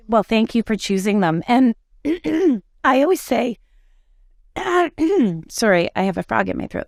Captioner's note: clears throat